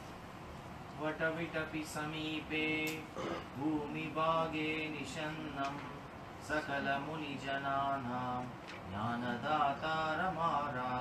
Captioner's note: chant